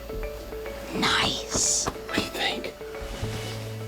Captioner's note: whispering